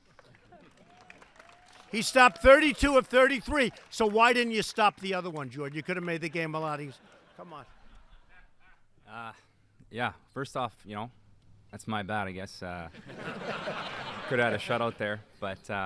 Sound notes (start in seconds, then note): 0.0 applause; 6.8 laughter; 12.9 laughter